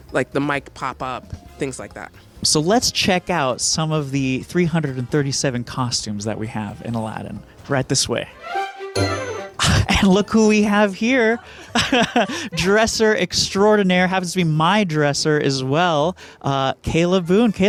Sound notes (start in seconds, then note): 8.3 bright orchestral music; 11.4 laughs